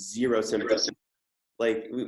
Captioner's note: audio cuts out